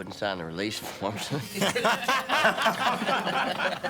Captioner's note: laughing